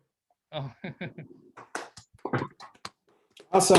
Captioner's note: chuckles